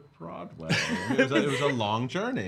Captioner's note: laughing